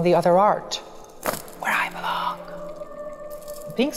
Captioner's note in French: chuchote